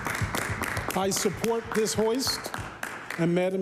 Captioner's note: applause